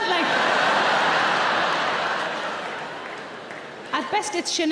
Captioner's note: audience laughs